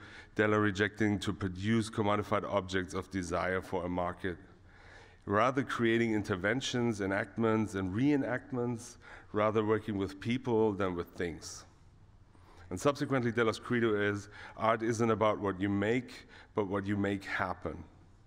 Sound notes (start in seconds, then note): none